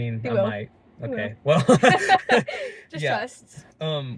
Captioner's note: laughing